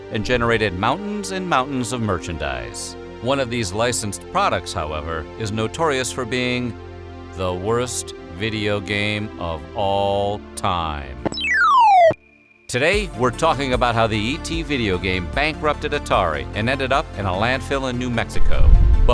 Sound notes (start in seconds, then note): 11.2 game sound effect